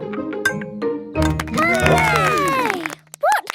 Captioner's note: all cheer